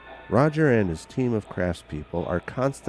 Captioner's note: voiceover